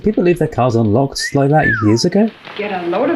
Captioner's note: whistles